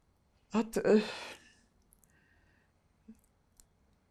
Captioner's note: pauses 6 seconds